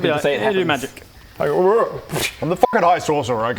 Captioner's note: whurrr